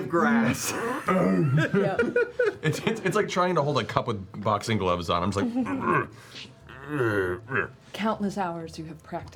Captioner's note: grunts